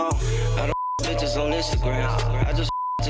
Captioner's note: beep